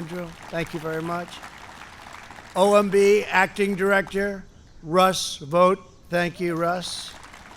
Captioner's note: applause; applause